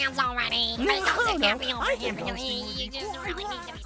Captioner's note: arguing